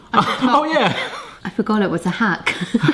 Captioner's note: laughing